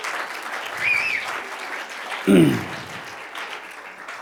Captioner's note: cheers and applause